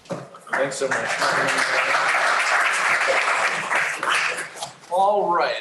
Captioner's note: applause